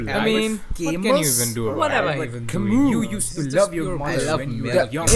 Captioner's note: chaotic internal chatter continues